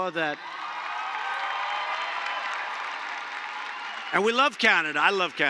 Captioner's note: applause